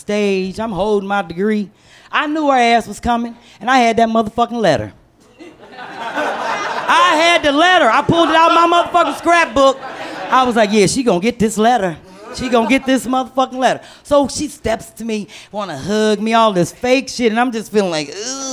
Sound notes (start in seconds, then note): 5.2 laughter